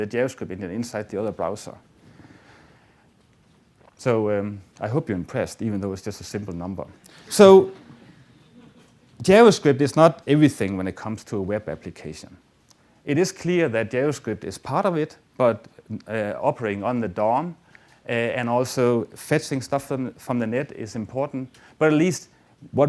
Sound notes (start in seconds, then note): 7.8 audience laughter